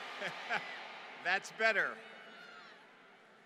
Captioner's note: laughter